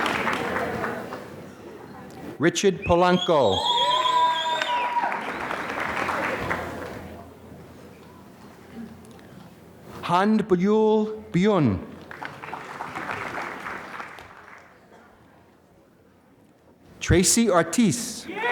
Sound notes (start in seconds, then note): 3.8 applause; 12.0 applause